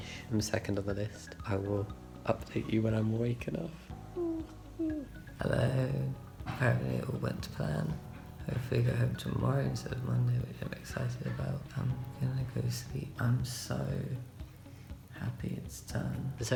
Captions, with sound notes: I'm second on the list I will update you when I'm awake enough. *High pitched Oohs* Helloooo Apparently it all went to plan Hopefully go home tomorrow, instead of Monday Which I'm excited about I'm gonna go sleep I'm so...happy it's done